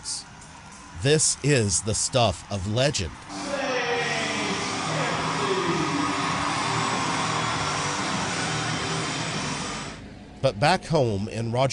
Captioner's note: crowd cheering